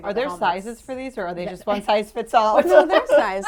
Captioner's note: laughs